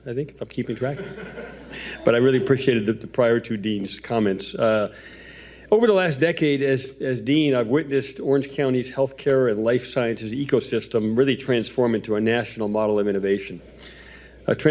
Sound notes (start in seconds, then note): 0.7 audience laughing